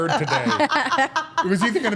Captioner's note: all laughing